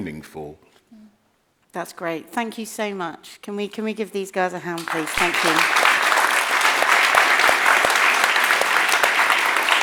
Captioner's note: applause